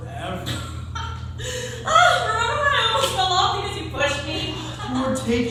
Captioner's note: laughing